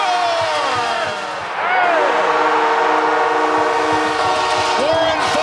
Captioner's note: team and crowd cheers